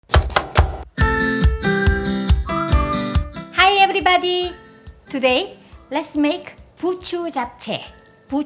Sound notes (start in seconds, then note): 0.0 knife chopping; 1.0 upbeat music